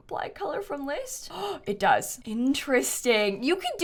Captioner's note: gasps